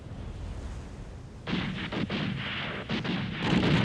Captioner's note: guns firing